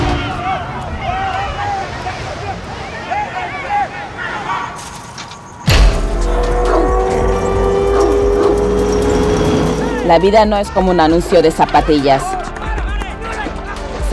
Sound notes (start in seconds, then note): 0.1 voices clamoring; 4.7 fence clinking; 5.8 siren wailing; 6.2 dog barking; 10.1 speaking in foreign language